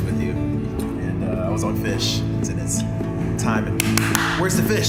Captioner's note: clapping